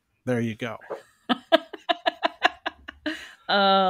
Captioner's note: laughs